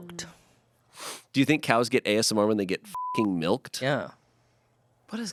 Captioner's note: beep